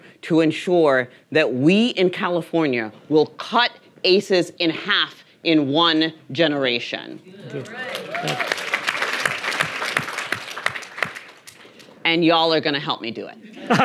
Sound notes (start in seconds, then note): 7.4 audience applauding; 13.6 audience laughing